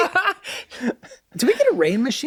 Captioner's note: laughing